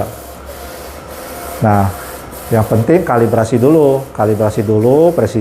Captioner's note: printer machine noise